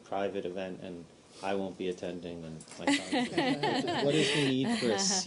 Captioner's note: laughter